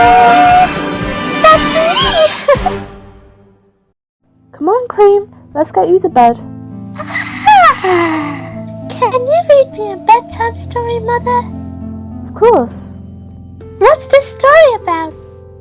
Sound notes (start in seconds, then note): 2.4 giggle; 6.9 yawn